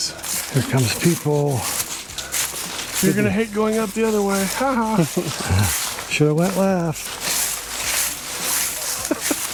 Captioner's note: laughter